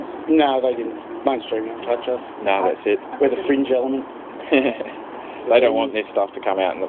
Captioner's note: laughs